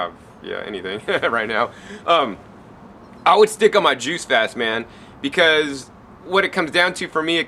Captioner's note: laugh